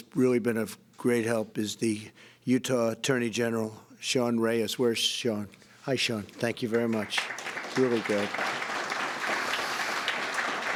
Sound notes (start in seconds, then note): 6.4 applause